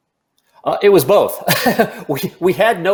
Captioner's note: chuckles